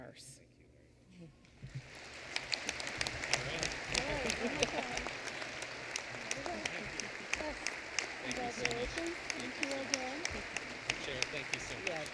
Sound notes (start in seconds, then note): 1.6 applause